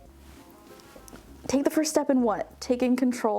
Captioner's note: none